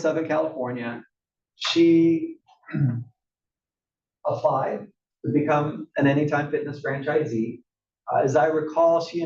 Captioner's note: cough